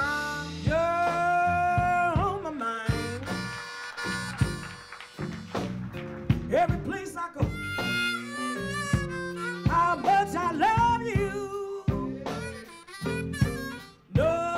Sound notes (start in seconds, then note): 2.0 audience claps